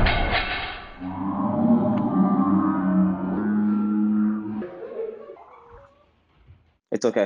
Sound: man groans in slow motion

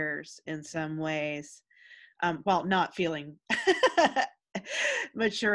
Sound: laughs

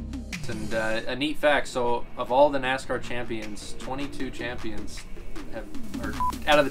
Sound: beep!

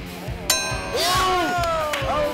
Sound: voiceover; bell dings

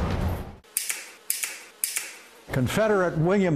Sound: guns cocking

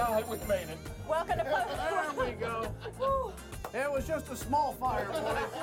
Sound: laughter

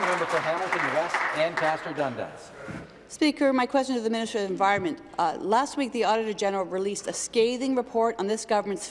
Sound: applause

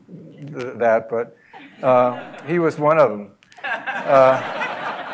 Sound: laugh

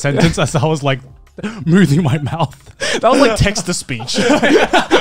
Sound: laughing

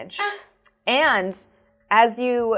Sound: grunts

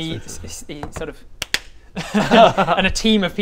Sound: clap clap

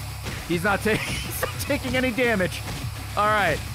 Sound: laughs

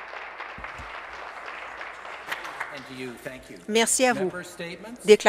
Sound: applause

